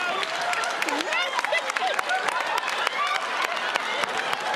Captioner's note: laughter